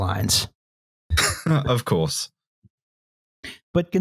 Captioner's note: scoffs